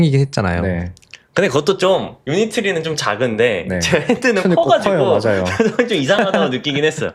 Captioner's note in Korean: 웃음